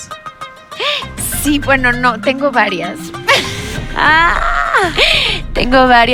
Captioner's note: gasps in goddess